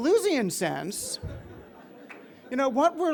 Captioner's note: audience chuckling